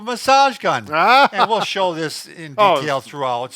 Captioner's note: laughs